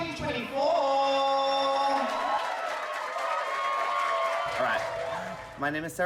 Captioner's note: everyone cheering